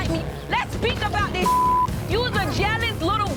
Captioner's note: beeping